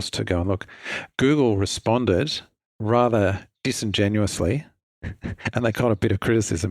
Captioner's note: chuckles